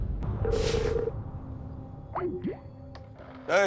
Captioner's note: phone ringing